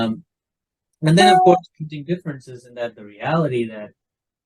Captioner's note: computer notification